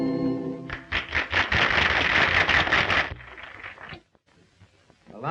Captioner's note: audience applauding